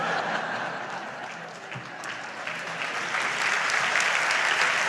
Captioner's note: audience laughs and applauds